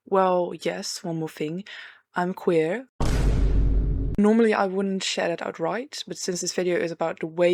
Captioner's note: gasp